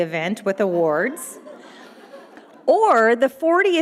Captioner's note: audience laughing